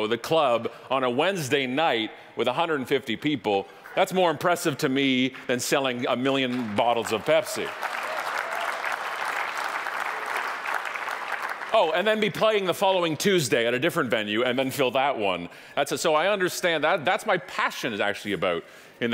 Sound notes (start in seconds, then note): 7.9 audience applauding